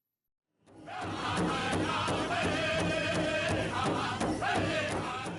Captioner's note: crowd chanting